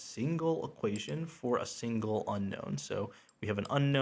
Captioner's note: mouse clicks